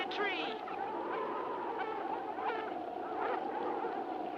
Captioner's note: dogs barking